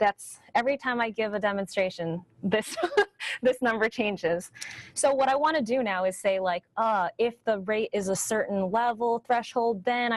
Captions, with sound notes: every time I give a demonstration, this (chuckles) number changes. So what I wanna do now is like, ah, if the rate is a certain level, threshold,